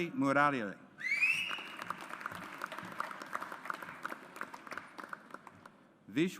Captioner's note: audience applauds